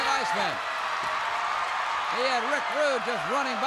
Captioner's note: crowd cheers